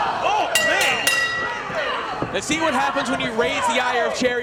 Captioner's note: bell rings